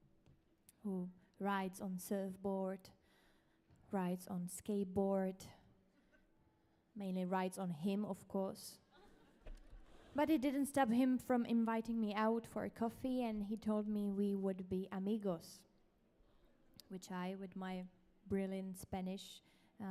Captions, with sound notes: who rides on surfboard, rides on skateboard, mainly rides on him, of course. (audience laughs) But it didn't stop him from inviting me out for a coffee, and he told me we would be amigos, which I, with my brilliant Spanish,